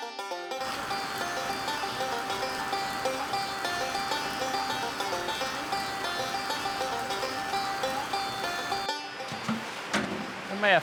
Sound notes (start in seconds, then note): 0.6 raindrops splash into lake